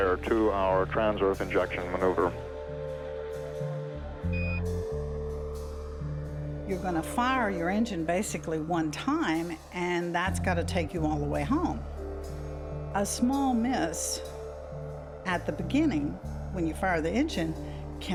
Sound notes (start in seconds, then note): 4.3 beep